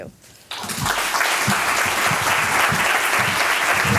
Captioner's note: applause